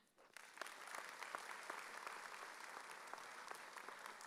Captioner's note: audience applauding